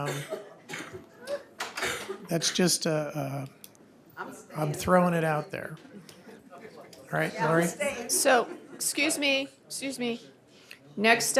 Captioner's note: laughter